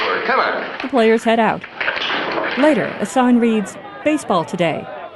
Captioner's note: crowd noise